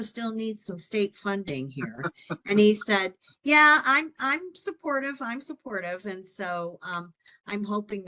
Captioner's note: laughing